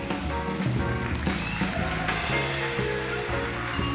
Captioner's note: audience applauding